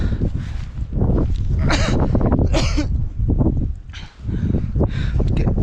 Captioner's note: coughing